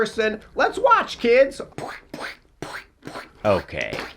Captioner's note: imitates bodies squishing